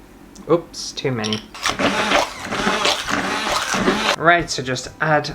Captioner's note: blending Noises